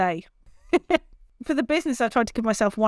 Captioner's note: laughs